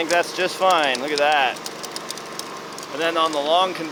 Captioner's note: dirt clinking